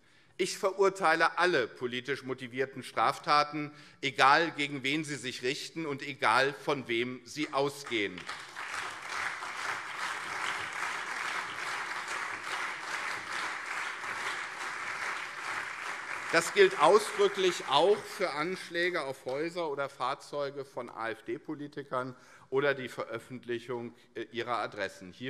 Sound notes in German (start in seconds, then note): 9.2 Allgemeiner Beifall